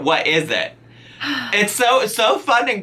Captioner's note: sighs